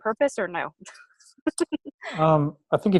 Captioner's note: laughs